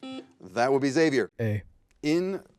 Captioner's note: buzzer beeps